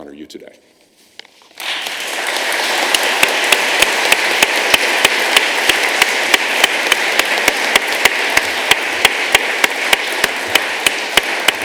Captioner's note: applause